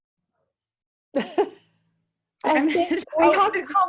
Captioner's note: laughing